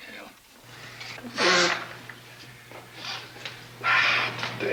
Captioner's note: Charlie's nose blows